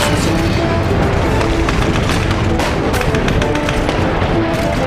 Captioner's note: guns firing